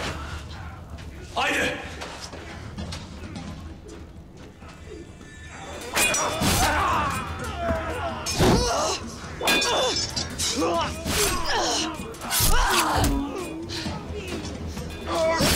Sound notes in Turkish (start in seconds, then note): 5.8 Kılıç Sesleri; 8.5 Bağırma Sesleri